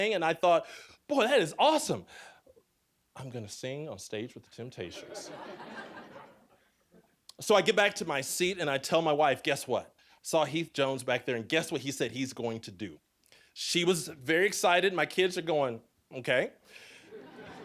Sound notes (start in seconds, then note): 4.9 audience laughing